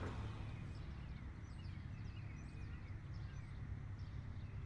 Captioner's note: birds chirping